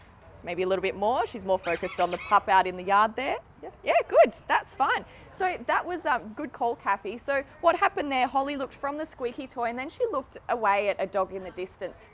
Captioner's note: toy squeaks